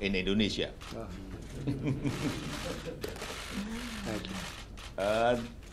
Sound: laughter

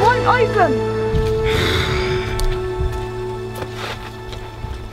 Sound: growling

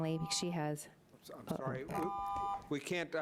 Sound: buzzing

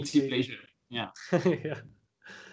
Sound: chuckles

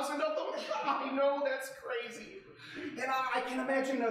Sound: laughing

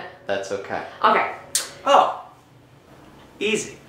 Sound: none

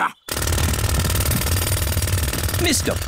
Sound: drilling

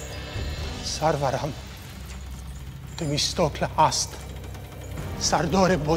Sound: Xerxes speaking in foreign language; captive speaking in foreign language

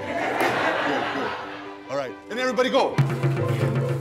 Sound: laughter; drum beats

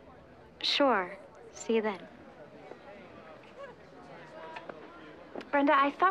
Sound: people chattering

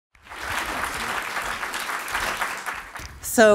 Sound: audience applauds

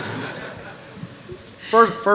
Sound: laughter

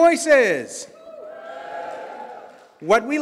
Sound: audience cheers

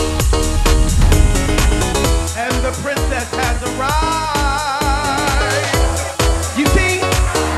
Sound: singsong

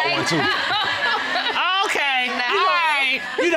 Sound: audience laughs

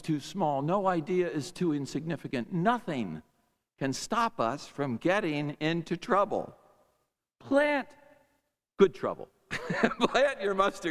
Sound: laughs

